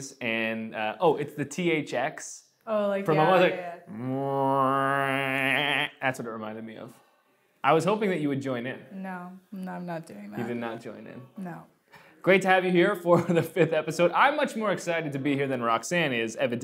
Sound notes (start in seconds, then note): 3.0 vocalizes